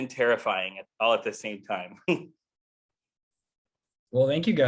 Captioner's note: chuckles